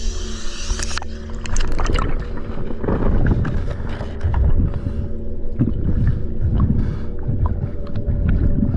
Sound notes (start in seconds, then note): 0.0 airline hisses; 5.2 audible breathing